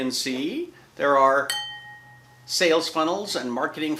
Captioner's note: ringing loudly